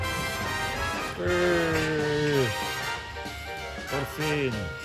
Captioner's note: upbeat music; groaning; speaking foreign language